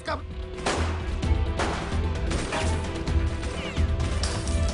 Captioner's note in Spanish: Disparos